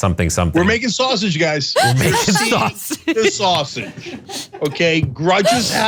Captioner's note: laugh